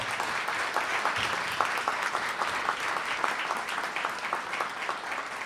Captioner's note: audience applauding